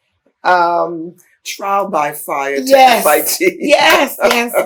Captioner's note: laughs